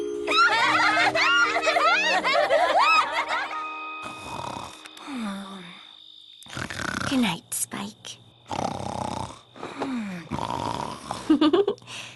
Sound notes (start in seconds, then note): 0.3 laughter; 4.0 Spike snoring; 11.2 chuckles